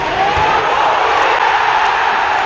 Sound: cheering

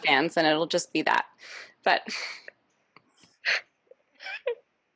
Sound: laughs

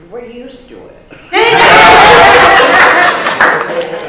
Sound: laughter

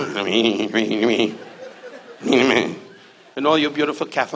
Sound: Don muttering

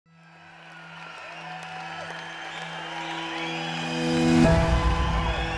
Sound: crowd cheering

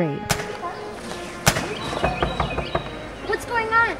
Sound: knocking; rifle shots

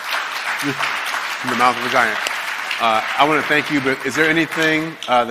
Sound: applause

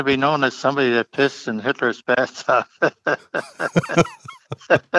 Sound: laughs

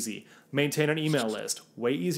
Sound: graphics swish

